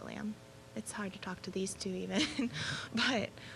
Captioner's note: chuckling